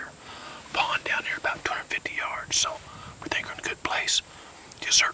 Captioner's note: whispering